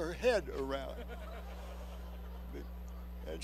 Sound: laughter

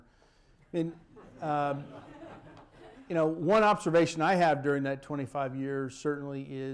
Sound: laughter

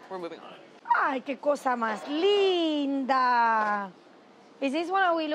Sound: speaking Spanish

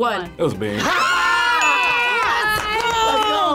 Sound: group screams

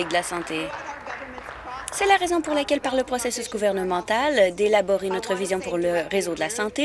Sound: applause

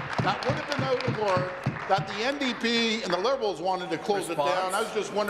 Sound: applause

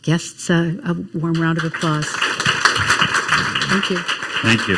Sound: crowd applauding

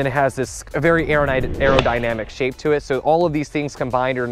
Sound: whooshing sound

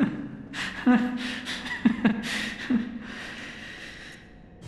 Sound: nervous laughter

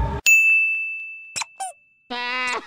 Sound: ding; squeak; sobbing

